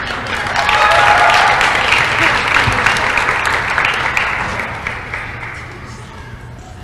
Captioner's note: applause